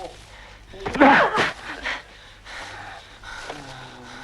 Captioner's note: Hundra grunts